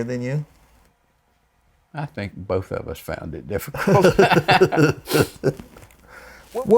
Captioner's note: laughs